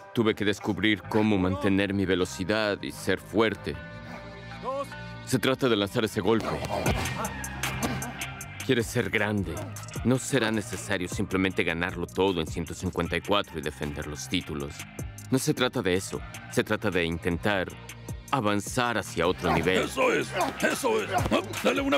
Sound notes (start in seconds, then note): 8.3 gruñidos